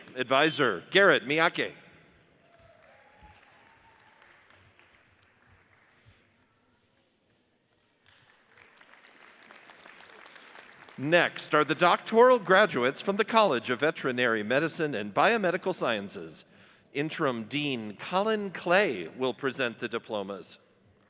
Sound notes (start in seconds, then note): 2.4 audience cheers and applauds; 8.0 audience applauds